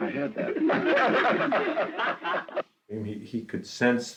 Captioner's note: laughing